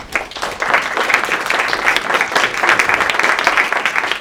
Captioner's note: audience clapping